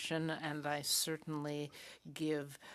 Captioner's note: speaking French